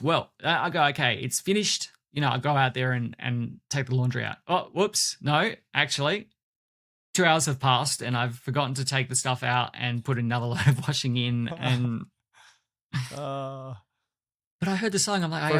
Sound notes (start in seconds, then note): 12.9 chuckles